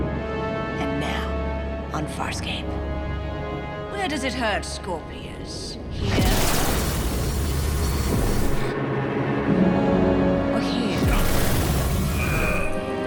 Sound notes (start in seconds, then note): 5.9 whirring; 10.9 Scorpius groaning; 10.9 whirring